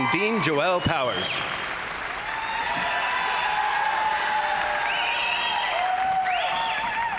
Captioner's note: crowd applauding; crowd cheering